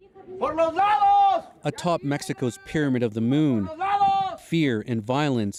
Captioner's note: speaking alternate language